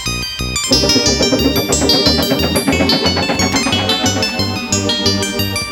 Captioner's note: electric whirring noise